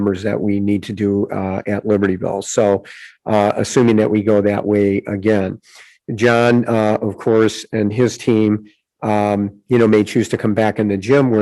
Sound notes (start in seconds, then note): none